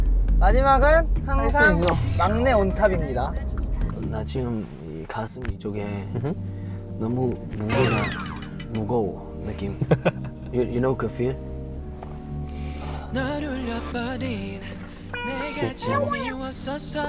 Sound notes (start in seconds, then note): 12.4 taking a deep breath